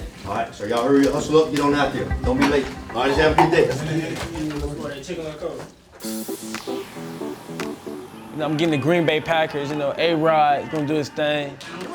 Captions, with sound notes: Alright, so ya'll hurry, hustle up, get on outta here. Don't be late. Alright, let's have a good day. - Yes it is. (teammates conversing quietly) (playful music) - I'm getting the Green Bay Packers, you know A Rod gonna do his thing.